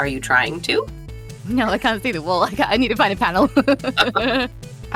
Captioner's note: chuckles